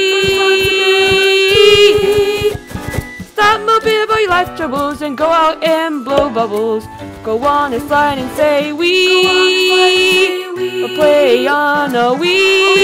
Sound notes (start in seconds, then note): 5.1 blows; 6.1 pop!; 7.2 footsteps